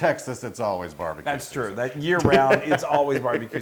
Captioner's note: laugh